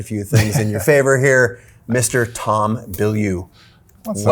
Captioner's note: Tom chuckles